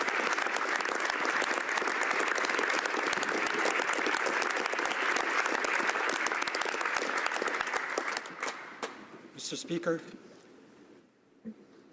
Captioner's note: applause